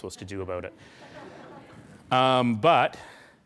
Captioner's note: laughing